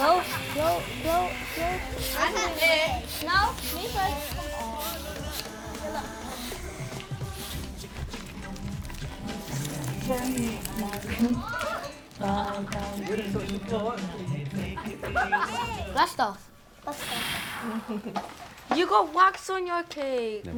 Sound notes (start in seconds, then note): 2.3 children chattering; 5.2 radio lulling continues; 16.8 breath huffing